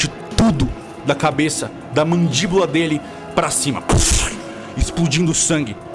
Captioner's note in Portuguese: Pushh